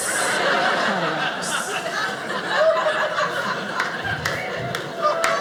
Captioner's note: audience laughing